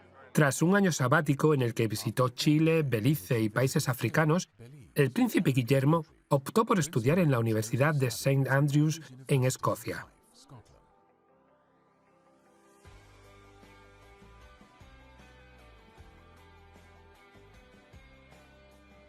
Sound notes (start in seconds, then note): 1.9 voiceover; 10.8 upbeat music